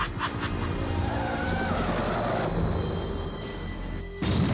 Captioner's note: tires squeal